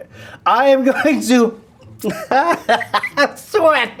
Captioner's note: laughs